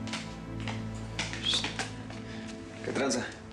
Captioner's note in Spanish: silbido